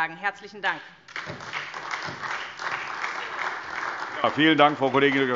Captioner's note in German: Beifall SPD und vereinzelt DIE LINKE